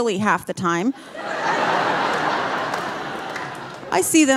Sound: audience laughing

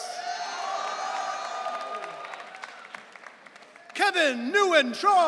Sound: audience cheering

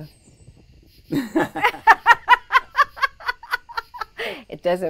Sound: laughs

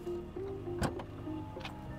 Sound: tailgate pops open

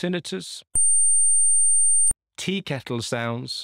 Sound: high pitched beep

